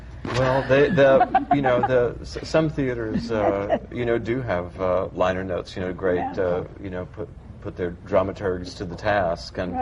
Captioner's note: laughter